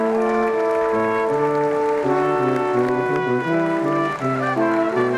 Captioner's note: audience applauding